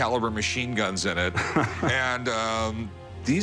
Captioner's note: laughs